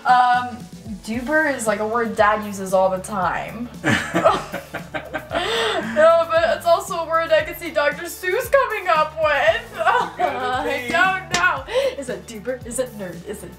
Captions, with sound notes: Um, doober is like a word Dad uses all the time. (laughing) No, but, it's also a word I could see Dr. Seuss coming up with. I don't know. Is it doober? Is it nerd?